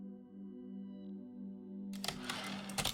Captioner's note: typewriter return slide